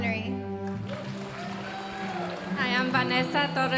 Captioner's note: audience applauding